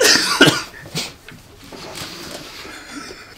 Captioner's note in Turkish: gülme sesleri